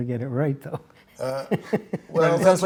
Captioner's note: laughter